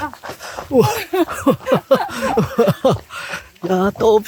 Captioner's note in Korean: 허탈한 웃음